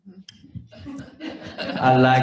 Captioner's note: laughter